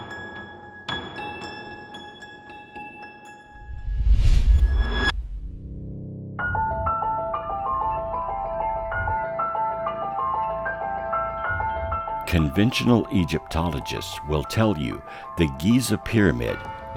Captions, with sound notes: (air whooshing) (intriguing music) Conventional Egyptologists will tell you the Giza Pyramid